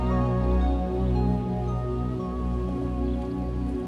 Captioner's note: birds chirping